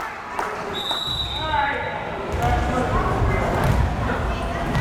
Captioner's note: whistle blares